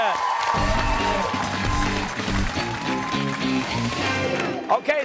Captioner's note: cheers and applause